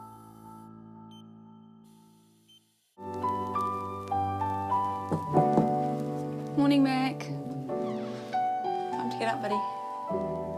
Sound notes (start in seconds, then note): 2.9 gentle music; 5.0 knock at door